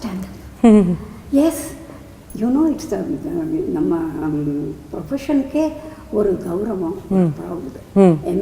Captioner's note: in Tamil; in Tamil